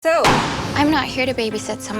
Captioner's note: pops balloon